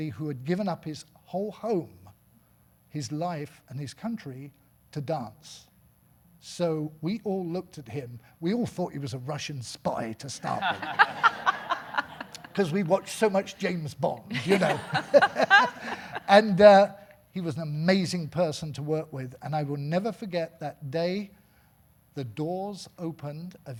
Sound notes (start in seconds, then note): 10.4 audience laughing; 14.1 laughing